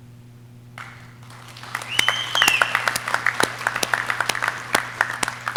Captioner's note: audience clapping